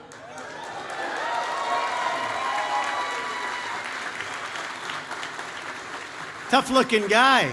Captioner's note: applause